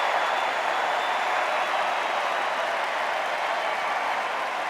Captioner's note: extended cheers and applause